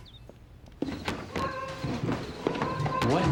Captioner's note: door opens; rustling